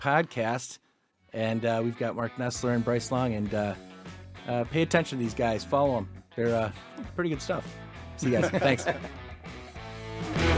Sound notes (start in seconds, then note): 8.2 laughing lightly